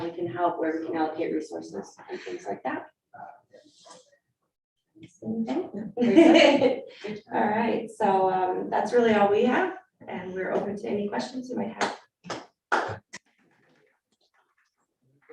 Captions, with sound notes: how we can help, where we can allocate resources and things like that. Thank you. (people laughing) All right, so that's really all we have. And we're open to any questions you might have. (people applauding)